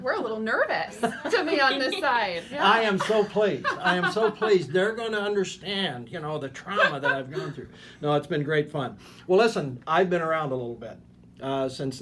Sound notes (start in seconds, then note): 2.9 laughing